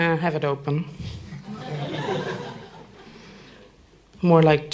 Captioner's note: laughter